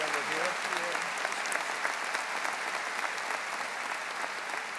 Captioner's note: audience applauding